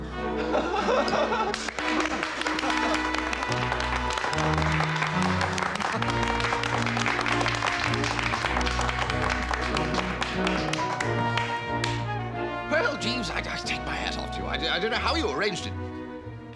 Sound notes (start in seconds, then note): 0.9 applause